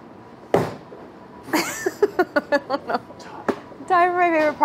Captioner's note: laughing